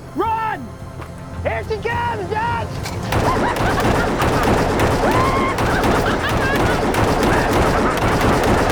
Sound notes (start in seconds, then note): 3.1 gatling gun rattling; 3.1 Zeke cackling